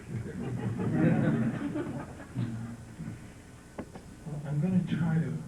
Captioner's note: laughter